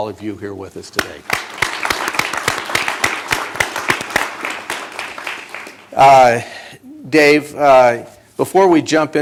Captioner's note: applause